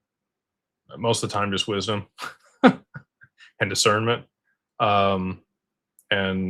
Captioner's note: laughter